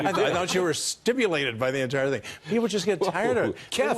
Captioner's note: laughter